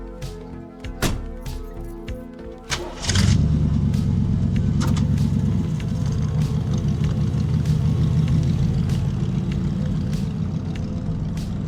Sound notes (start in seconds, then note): 2.6 car starts up